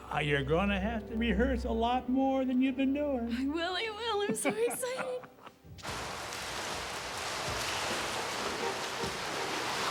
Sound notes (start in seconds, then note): 5.8 water splashing